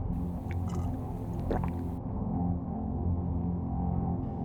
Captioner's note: Dean gulps